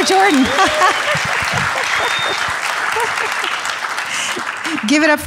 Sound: audience applauding

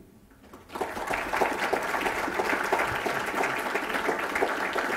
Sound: applause

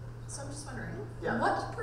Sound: voiceover

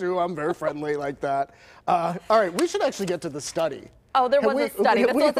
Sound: laughter

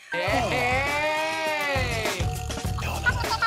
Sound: cheering; sped-up voices

